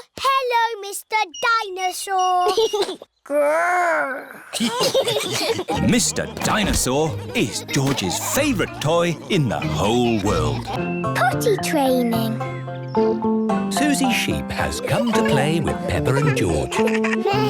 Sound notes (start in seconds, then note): 2.2 giggles; 4.5 laughter